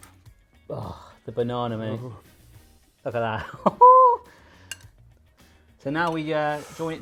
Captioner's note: laughs